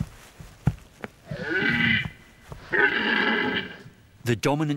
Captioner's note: red deer calls